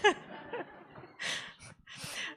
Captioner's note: laughter